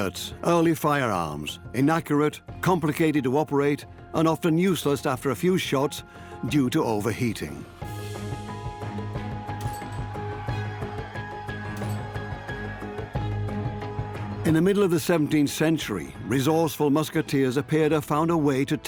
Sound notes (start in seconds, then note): 10.4 soldiers shout